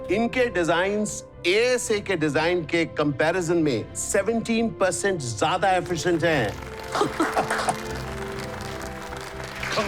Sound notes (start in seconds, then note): 5.8 applauses; 6.9 giggling